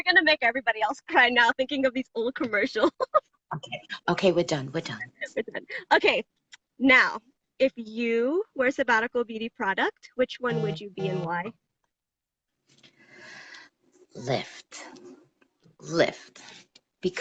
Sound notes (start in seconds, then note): 3.6 laughs